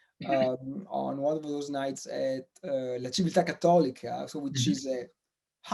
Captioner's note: in foreign language